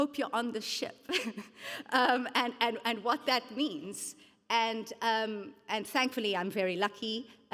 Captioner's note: chuckles